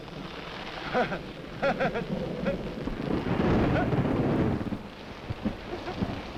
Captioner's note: rain pattering; Quent chuckling